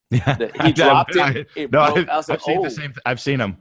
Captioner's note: laughs